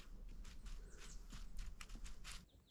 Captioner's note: rustle rustle